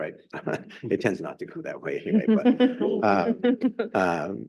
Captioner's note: chuckles; chuckling; group chuckling